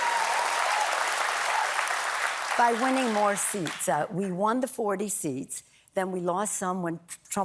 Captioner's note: applause